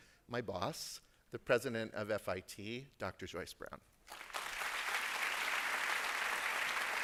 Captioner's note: applause